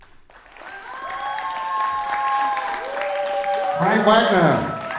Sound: audience applauds and cheers

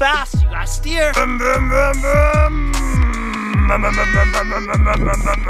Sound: imitating car revving

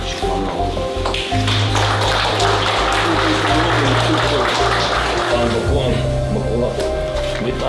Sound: applause

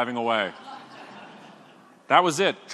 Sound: audience laughing

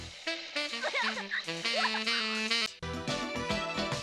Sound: giggles

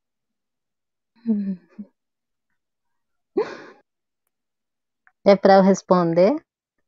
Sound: speaks portuguese

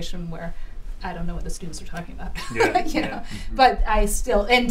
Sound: laughter

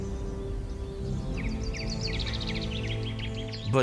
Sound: birds chirping

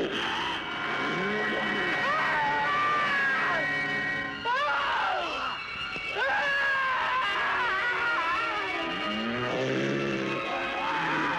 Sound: screaming

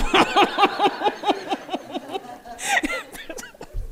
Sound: laughing

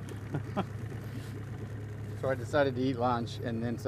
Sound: chuckling

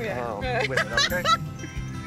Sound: laughter

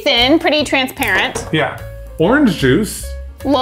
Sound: container shuffling

